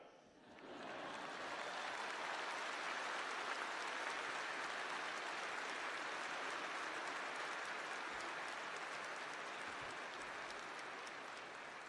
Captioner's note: applause